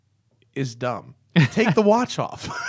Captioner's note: laughter